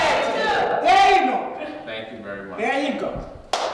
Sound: applause

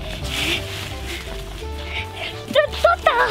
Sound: laughing

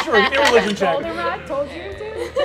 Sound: dice rolling

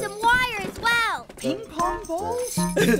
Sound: chuckling

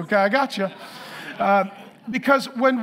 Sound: congregation laughing

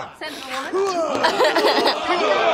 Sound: laughs

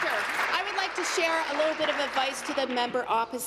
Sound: applause

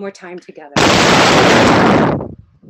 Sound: static

